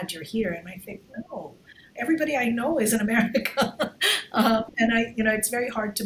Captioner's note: laughs